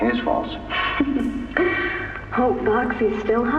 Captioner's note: hehe